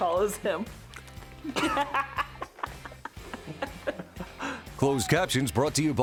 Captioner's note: laughing